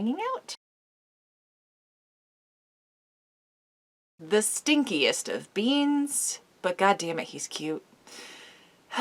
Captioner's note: dramatic sigh